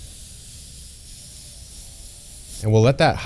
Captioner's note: spray bottle spritzing